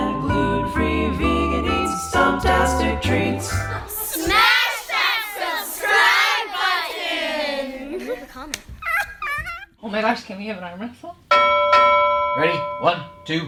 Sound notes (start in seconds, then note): 8.8 person squeakily cries; 11.3 bell rings